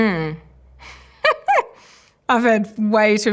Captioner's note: laughs